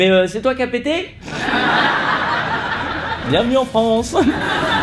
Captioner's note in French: rires